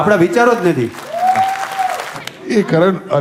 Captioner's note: crowd applauding